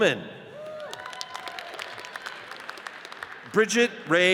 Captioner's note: audience cheers and applauds